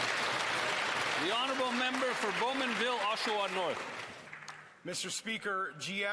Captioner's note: some Applause